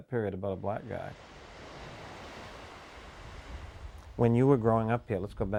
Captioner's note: waves crashing